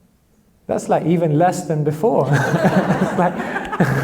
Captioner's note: laughs